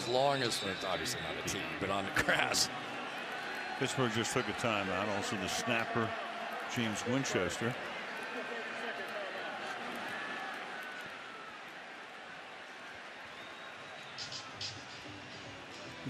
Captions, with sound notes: on the tee as long as it's-- obviously, not a tee, but on the grass. Pittsburgh just took a timeout. Also, the snapper, James Winchester. [pa announcement]